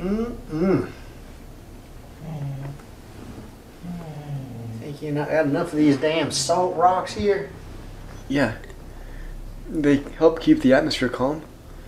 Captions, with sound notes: Mmm mmm. (SOFT GROWL) Think you about have enough of these damn salt rocks here. Yeah. They help keep the atmosphere calm.